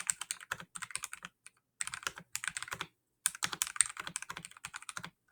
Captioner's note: keyboard clacking; keyboard clicking